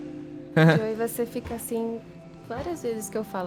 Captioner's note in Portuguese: risada nervosa